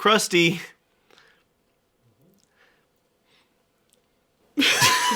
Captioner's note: uncomfortable silence; laughing